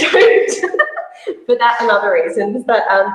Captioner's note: laughs